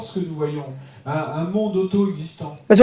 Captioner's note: speaking in French